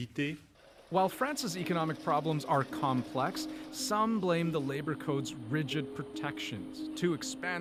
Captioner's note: speaking French